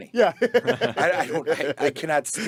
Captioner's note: group laughing